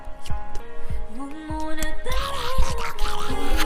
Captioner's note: starts whispering "y'all don't get it"